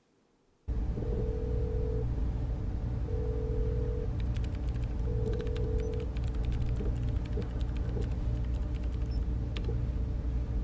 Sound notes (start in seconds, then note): 1.8 phone line ringing; 4.1 computer keys tapping